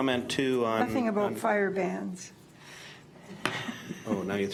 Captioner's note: laughs